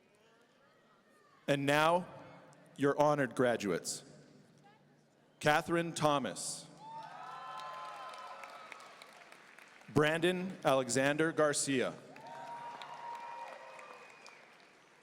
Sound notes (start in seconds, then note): 6.8 audience cheering; 12.2 audience cheering